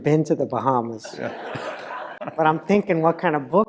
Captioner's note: laugh